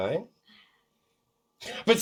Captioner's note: awkward silence